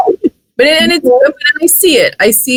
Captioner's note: laughing drowns out speaker